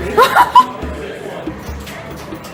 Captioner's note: laughter